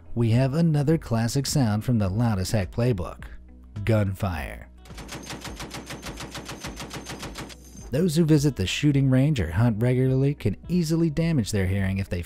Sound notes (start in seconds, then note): 4.9 gun blasting